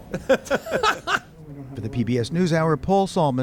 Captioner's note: laughter